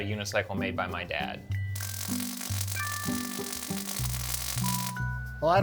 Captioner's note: welding